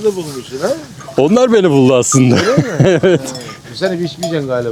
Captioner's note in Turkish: kahkaha